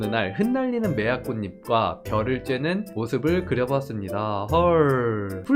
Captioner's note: voiceover